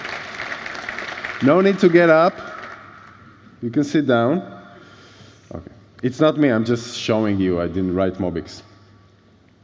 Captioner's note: applause